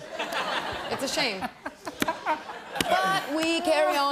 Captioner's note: laughter